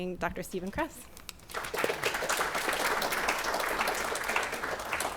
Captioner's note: applause